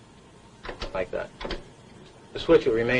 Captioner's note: switch clanking